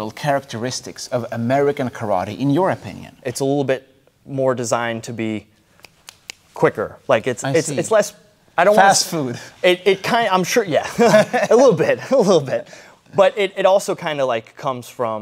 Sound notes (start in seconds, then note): 5.8 snaps fingers; 10.8 laughing